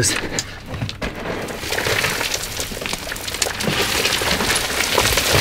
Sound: rocks falling

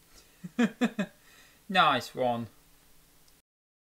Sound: laughs

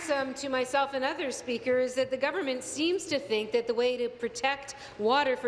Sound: applause

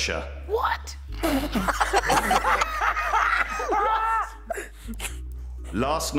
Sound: laughing

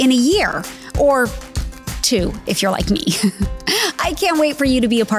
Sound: chuckles

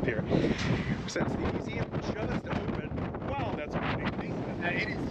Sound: loud wind

